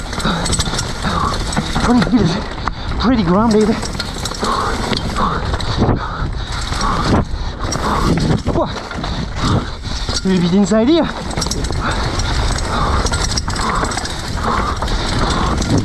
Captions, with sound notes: pretty good. Pretty grounded. (panting) Whoa! A little bit inside here. (panting)